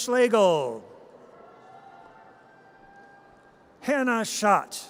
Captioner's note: audience cheers